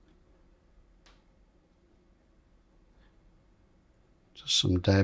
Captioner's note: silence